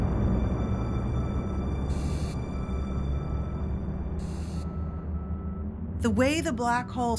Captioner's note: machines beeping and hissing